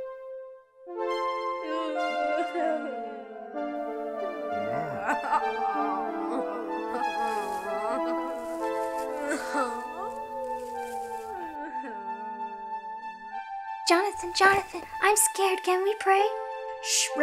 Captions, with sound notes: (sobbing) (somber music) - Johnathon, Johnathon, I'm scared, can we pray?